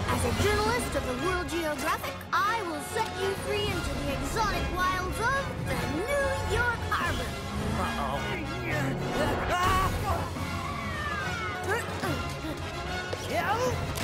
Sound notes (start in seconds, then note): 10.6 police siren